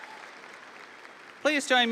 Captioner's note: audience applauding; audience cheering